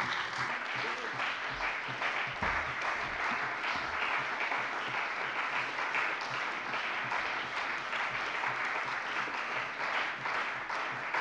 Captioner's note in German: Lang anhaltender Beifall bei der CDU und dem BÜNDNIS 90/DIE GRÜNEN